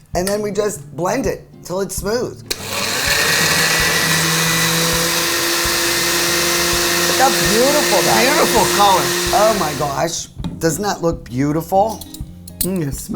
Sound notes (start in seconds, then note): 2.5 blender whirring